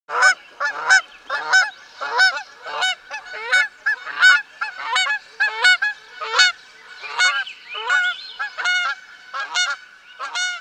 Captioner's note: lots of geese noises